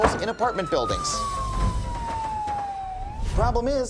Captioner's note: siren blares